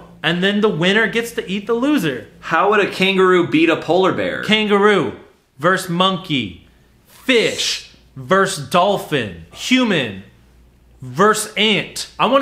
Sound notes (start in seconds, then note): none